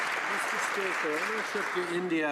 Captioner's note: some Applause